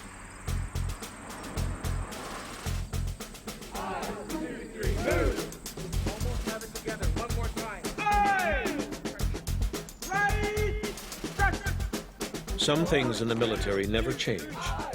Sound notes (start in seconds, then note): 0.0 marching drumbeat music; 3.2 chanting; 7.6 shouts